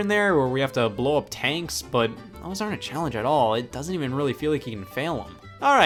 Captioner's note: none